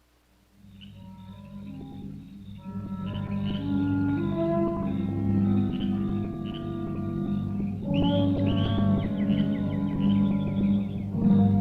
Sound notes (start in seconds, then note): 0.8 insects chirping; 0.8 tense music